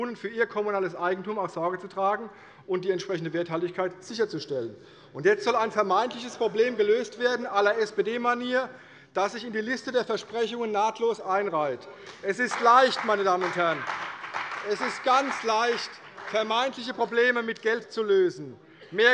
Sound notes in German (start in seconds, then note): 12.0 Beifall bei der CDU und dem BÜNDNIS 90/DIE GRÜNEN